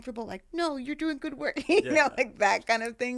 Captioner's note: laughing